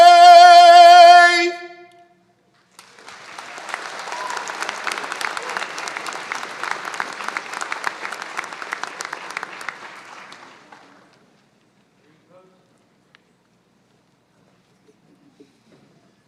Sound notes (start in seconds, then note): 2.6 applause